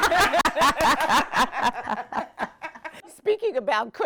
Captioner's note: laughing